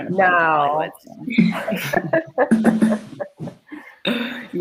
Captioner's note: they laugh